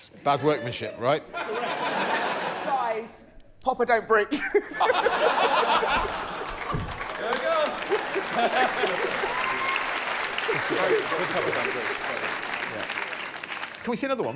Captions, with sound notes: And if that chair breaks, bad workmanship, right? -[laughter] -Correct. Guys. Pappa don't breach. [laughter] [applause]